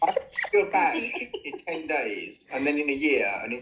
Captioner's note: laughter